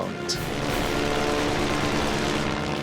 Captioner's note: weapons firing